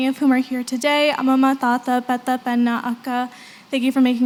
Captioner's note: non-english